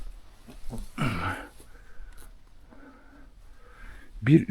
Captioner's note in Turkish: boğazını temizler